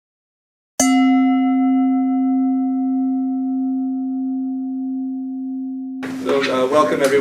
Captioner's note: bell ringing